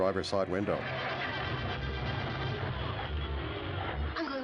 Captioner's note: engine turns over